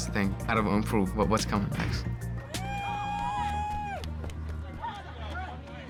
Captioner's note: cheering